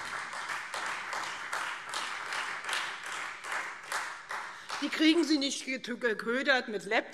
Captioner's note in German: Beifall Freie Demokraten und vereinzelt SPD